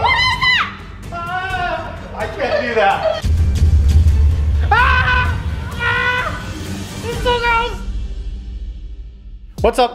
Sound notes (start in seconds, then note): 0.0 screaming; 4.4 shouting